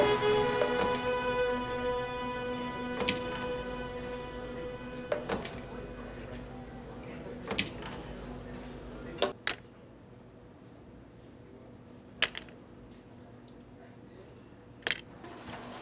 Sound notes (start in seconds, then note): 2.8 oyster shells clattering; 7.2 diners chattering